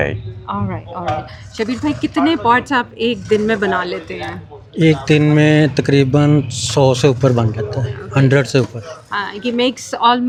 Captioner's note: speaking Urdu